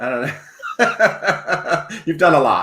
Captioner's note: laughs